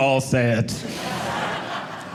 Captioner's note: audience laughing